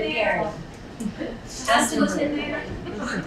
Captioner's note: laughing